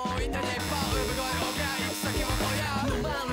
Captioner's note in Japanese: 開演ブザーの音